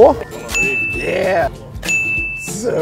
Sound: ding!

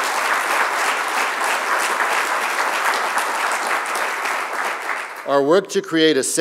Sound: applause

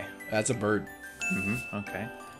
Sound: correct answer ding

